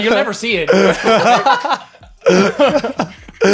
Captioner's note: laughing